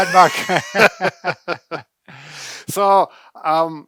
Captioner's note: cheerful laugh